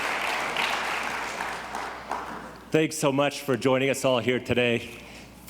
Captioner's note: audience applauds